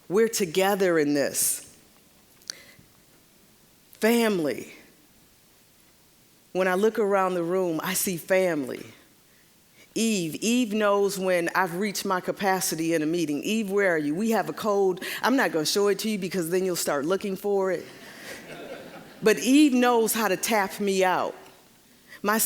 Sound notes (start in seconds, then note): 18.0 audience laughing